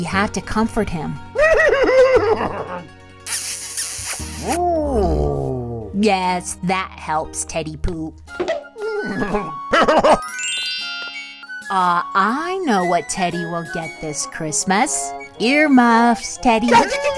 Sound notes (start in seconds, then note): 3.2 kiss; 4.6 growl